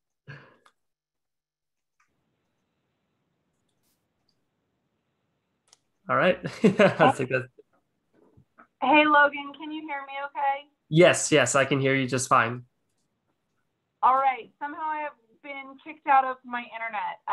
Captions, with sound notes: All right, that's a good. (chuckling) - Hey Logan, can you hear me okay? - Yes, yes I can hear you just fine. - All right, somehow I have been kicked out of my internet